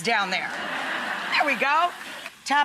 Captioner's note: audience laughs